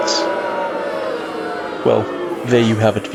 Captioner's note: booing